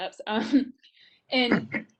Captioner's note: chuckles